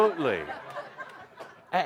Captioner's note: laughter